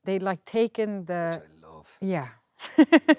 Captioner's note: laughs